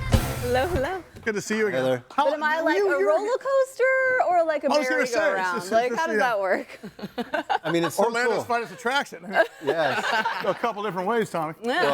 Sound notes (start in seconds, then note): 6.7 laughing